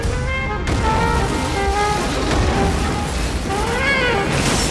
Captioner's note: car crashing